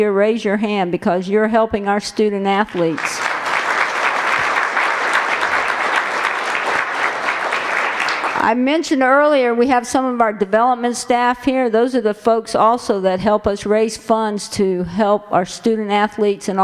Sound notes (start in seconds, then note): 2.6 applause